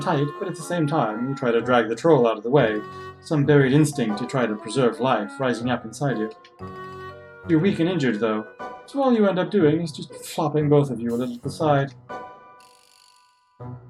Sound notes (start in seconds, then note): none